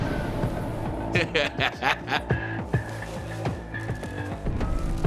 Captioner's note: suspenseful music; laughs